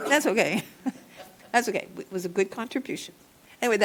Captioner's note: laughter